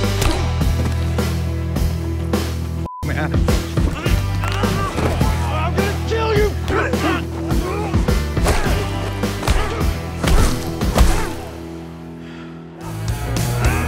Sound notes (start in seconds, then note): 0.2 bone cracks; 0.2 upbeat music; 2.9 beep; 8.6 loud crash; 10.9 man groans